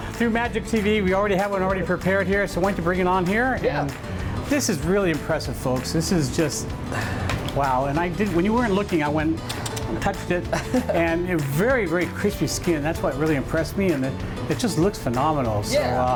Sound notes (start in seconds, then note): 9.2 clicking with tongue; 10.4 laughing